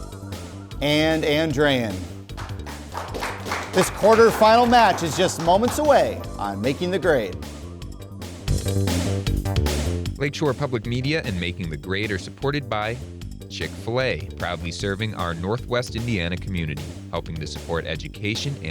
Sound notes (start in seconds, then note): 2.3 applause; 7.8 upbeat music